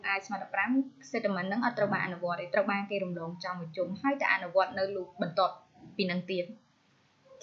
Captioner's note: dogs